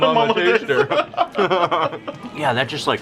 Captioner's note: laughing